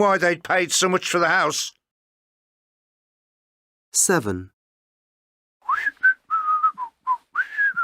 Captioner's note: whistling